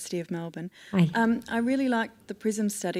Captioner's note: voiceover